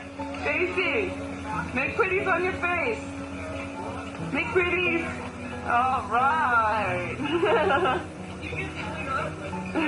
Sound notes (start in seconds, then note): 7.2 laughs